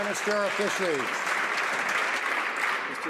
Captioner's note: some Applause